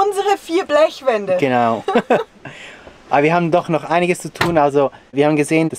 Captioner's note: laughter